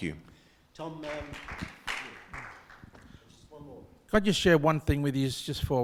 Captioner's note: audience clapping